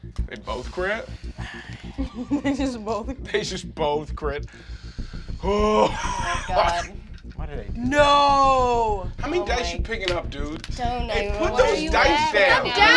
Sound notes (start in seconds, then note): 5.4 moans